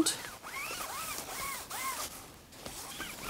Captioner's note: whirring noise